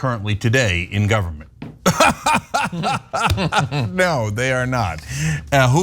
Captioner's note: laugh